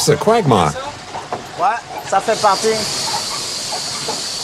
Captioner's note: foreign language